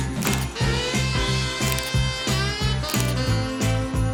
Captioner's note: camera snapping